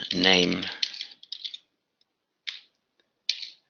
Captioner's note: typing